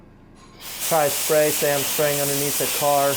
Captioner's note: loud spraying